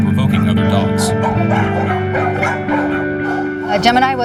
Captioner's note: dogs barking